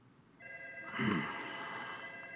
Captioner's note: clears throat